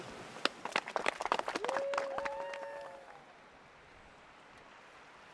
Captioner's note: clapping and Cheers